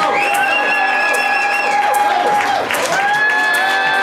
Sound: cheering; crowd

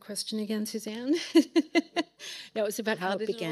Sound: laughing

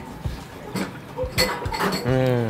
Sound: glasses clinking

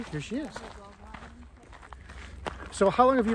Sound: hikers chatter

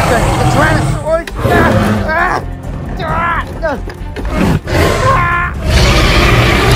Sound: Guard 2 screaming

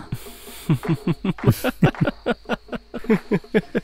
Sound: laughs

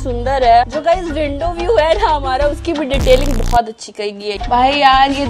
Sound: sarcasm tone

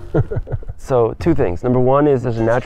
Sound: laughs

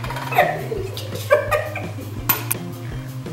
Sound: laughing

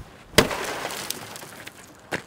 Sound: glass smashes

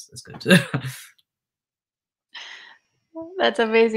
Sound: chuckles

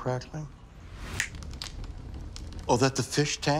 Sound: fire crackling

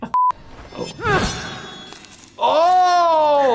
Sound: laughing; game character groans

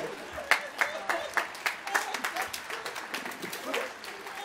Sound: applause

